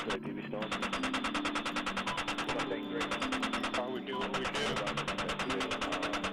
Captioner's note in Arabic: إطلاق النار; أصوات الدردشة على الراديو